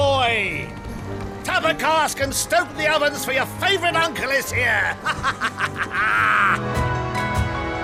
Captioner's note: laughs